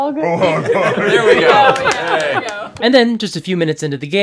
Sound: laughter

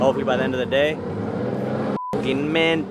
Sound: beep

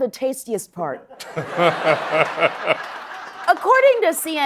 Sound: laughing

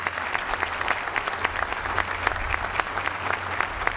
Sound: applause

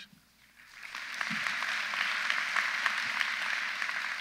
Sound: audience applauds

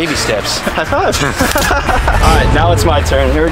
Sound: laughs

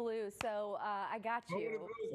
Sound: laughter

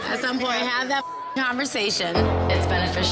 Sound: beep

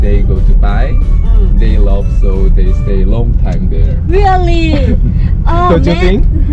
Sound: surprised

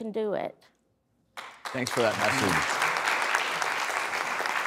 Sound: applause

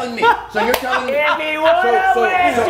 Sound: laugh

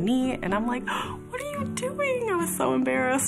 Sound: gasps

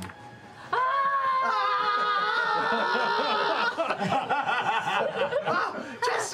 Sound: soft yelling; slighty more intense yelling; also yelling

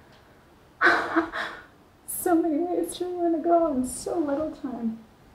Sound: laughs

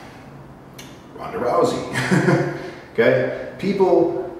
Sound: chuckle

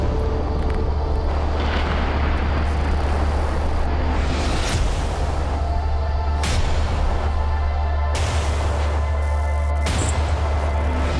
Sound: thunder

